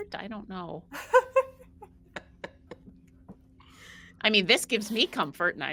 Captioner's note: laughs